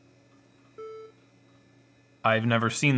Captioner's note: computer beeps loudly